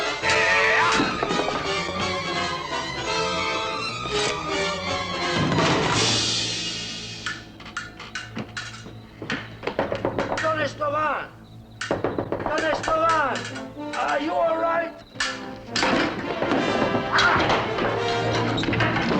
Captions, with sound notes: Ah-ah! [CRASHING] [SWORDS RATTLING] Don Estevan. Don Estevan. Are you all right? [KNOCKING ON DOOR]